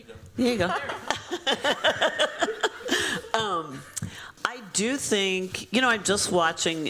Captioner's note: laughter